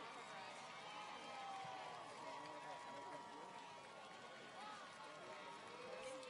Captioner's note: audience cheers and applauds